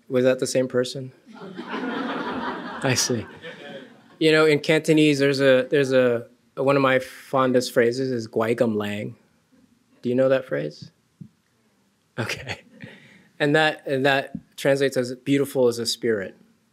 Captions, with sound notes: Was that the same person? (laughter) I see. You know, in Cantonese there's a, one of my fondest phrases is, (speaking foreign language) do you know that phrase? Okay and that translates as beautiful as a spirit.